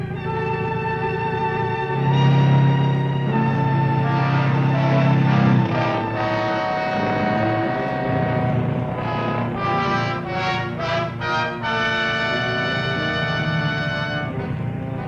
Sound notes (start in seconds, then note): 6.3 car engine revving; 12.0 dramatic music